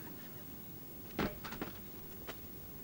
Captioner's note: tyre bangs on rock